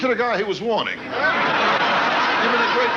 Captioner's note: audience laughing